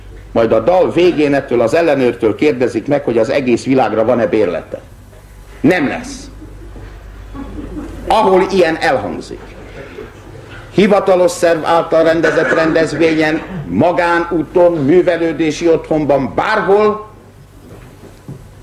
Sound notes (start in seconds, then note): 7.3 laughter